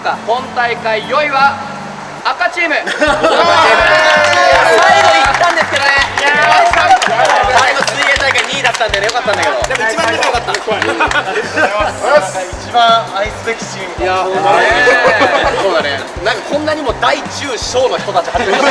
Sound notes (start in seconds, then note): 3.5 cheering